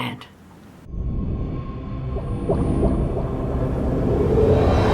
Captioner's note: climactic whooshing